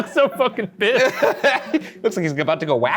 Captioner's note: both laughing